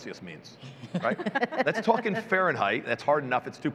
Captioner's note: chuckling